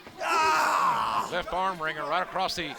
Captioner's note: Seth screams